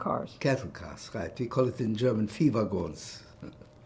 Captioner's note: german; laughing